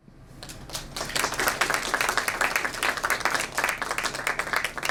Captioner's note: audience applauds